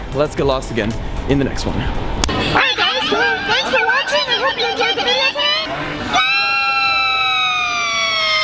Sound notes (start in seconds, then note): 2.7 pitched up voice